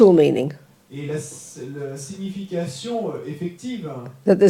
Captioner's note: French